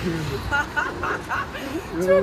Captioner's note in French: Rires